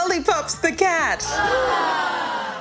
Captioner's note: groaning